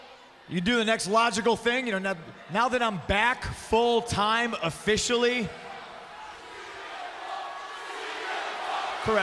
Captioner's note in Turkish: Alkışlar